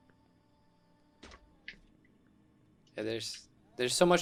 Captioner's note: zap